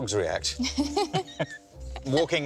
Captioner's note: laughs